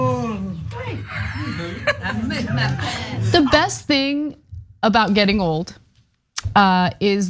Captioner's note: laugh